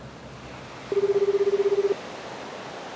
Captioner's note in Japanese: 着信音